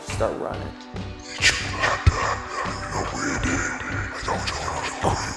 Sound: in foreign language

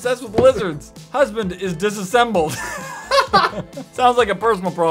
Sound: laughs

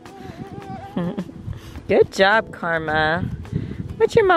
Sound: giggle

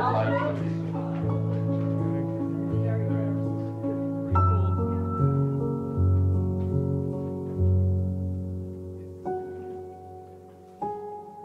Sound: relaxing Romantic Piano Music; soft background chatter

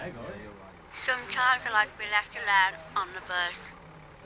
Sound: woman speaking on phone

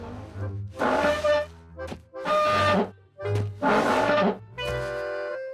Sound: screeching

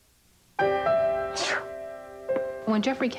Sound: sneezes

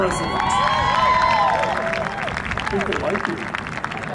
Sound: cheering and Applause

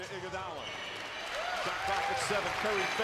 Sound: cheers and applause

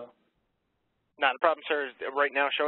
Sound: voiceover

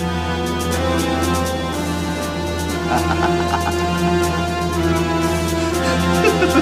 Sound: laughing

